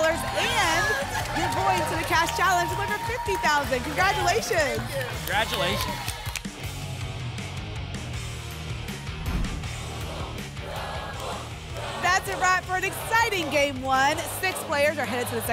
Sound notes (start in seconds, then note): 0.0 applause and cheering; 9.2 whoosh; 9.6 audience chanting "double!"